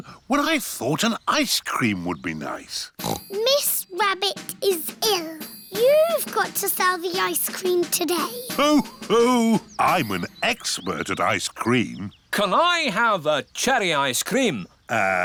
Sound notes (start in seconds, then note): 3.0 snorts; 8.0 laughs